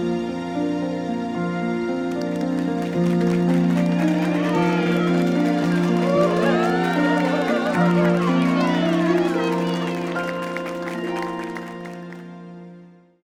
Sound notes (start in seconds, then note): 2.1 applause; 7.5 exclamations of joy